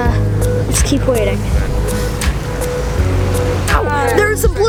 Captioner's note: passengers talking